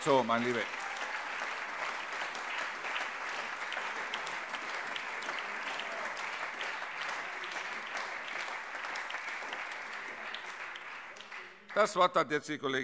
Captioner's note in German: Allgemeiner Beifall